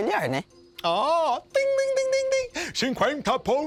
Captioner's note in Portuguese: Imitando sino